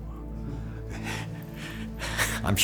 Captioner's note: chuckling